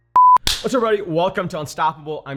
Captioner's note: hand claps